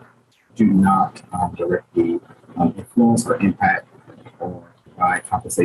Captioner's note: speaking faintly